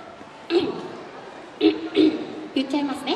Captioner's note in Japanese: 咳払い